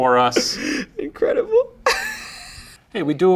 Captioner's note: laughs